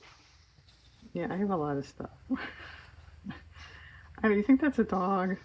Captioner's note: laughs